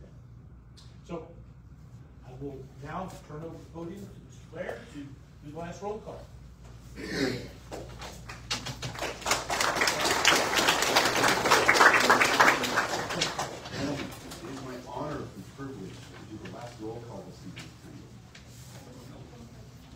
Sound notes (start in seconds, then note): 6.9 clears throat; 8.1 audience applauds